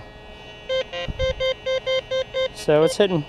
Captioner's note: detector beeps